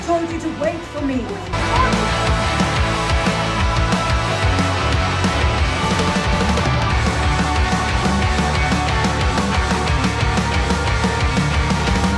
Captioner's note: man screaming unintelligibly